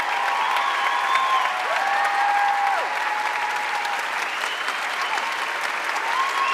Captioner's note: audience cheering and applauding